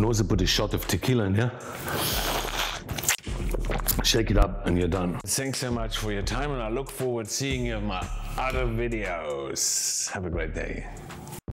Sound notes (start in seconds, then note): 1.6 loud suction